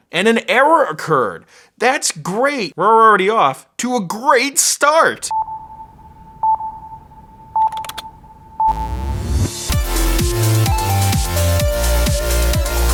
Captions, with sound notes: And an error occurred! That's great. Well, we're already off to a great start! (beeping) (typing) (electronica)